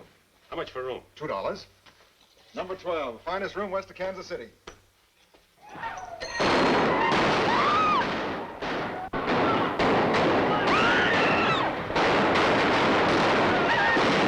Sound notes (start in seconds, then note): 6.4 gunshots, woman screams; 8.7 gunshots, screams continue